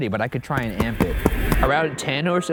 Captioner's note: stamp banging